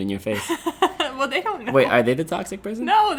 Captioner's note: laughing